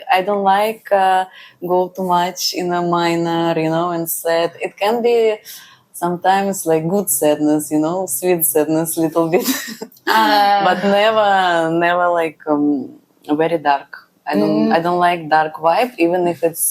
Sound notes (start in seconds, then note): 10.0 laughs